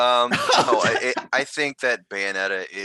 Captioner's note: laughing